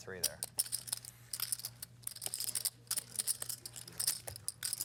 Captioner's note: chips clatter